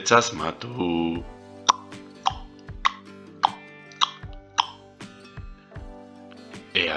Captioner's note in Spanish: tic, tac, tic, tac